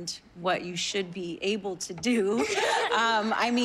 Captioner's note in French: giggling